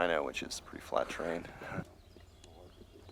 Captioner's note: voiceover